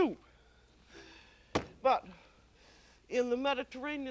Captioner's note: thud